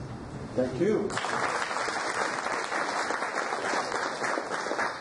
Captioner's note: audience applauds